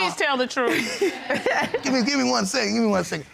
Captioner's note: laughing